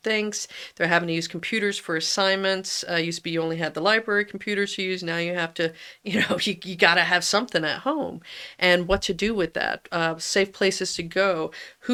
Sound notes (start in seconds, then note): 6.1 laughs